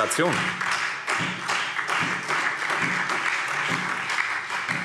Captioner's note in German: Beifall Freie Demokraten, DIE LINKE und vereinzelt SPD